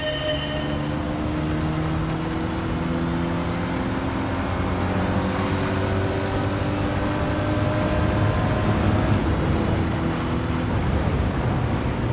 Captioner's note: sound effects